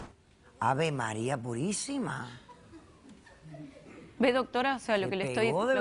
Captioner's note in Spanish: Risas